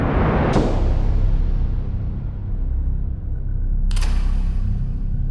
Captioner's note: booming sound; clicking sound